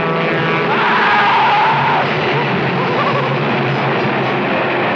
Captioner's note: Seymour screams